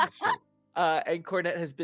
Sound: laughs

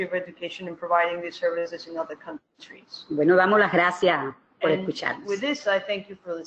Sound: speaking another language

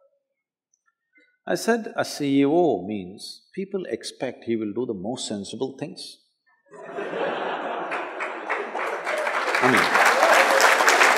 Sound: laughter/Applause

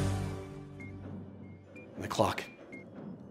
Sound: clock beeping

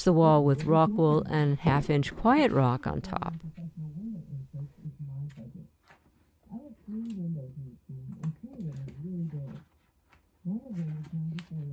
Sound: audio from speaker

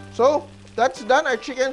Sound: sizzle

